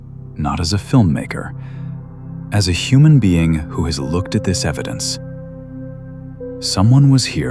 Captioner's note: breath; breath